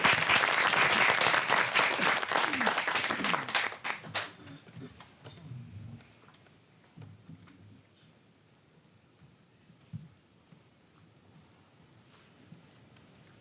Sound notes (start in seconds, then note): 0.0 audience applauds